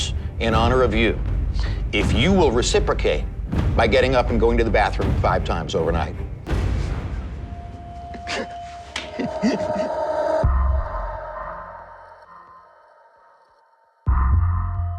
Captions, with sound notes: in honor of you, if you will reciprocate by getting up and going to the bathroom 5 times overnight." (LAUGHING)